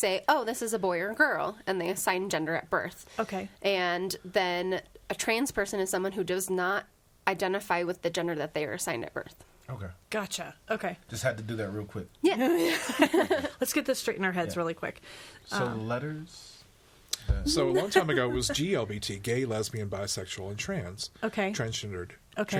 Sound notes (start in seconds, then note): 12.5 all laughing